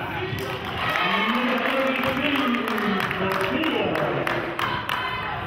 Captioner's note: clapping